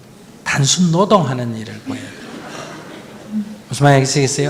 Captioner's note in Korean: 청중 웃음